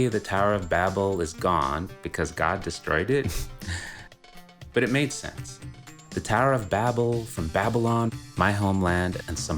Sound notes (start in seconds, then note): 4.4 laughs